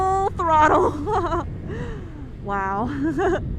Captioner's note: laughs